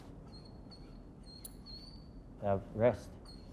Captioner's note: dog whines slightly